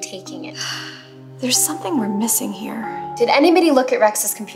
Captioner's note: sighs